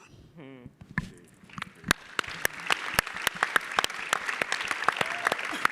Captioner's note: audience clapping